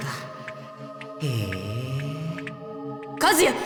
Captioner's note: interested hum